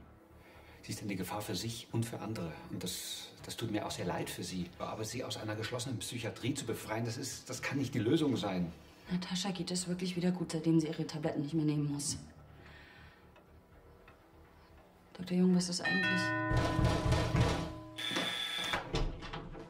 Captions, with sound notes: But Natascha is a danger for herself and others .. .. and I am sorry .. .. but to rescue her from a psychiatric hospital is not the solution! Natascha is really doing fine since she's not taking her pills anymore. Dr. Jung, what is .. (doorbell and knocking) (door buzzes)